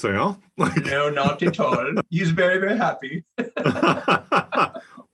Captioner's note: laugh